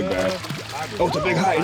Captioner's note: fish splashing